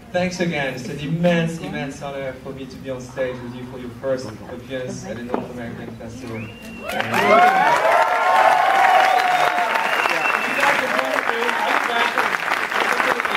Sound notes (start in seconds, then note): 6.5 audience cheers